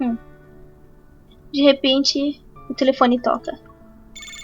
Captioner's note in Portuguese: De repente, o telefone toca